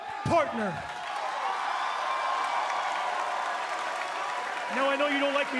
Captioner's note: cheers and applause